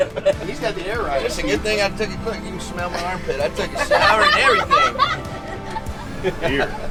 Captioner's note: laughter; shower